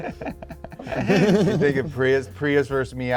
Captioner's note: all laughing; chuckles